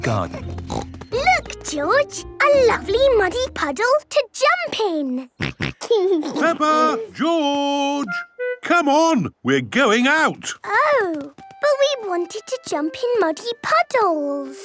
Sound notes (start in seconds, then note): 0.3 snorting; 5.4 snorting and giggling